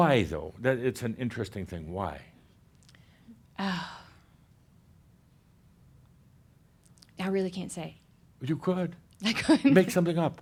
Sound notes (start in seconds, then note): 3.6 sighs; 9.2 she chuckles